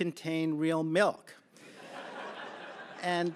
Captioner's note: laughter